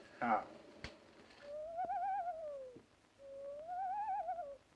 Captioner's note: quivery voices